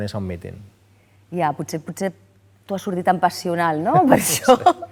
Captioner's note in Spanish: ríe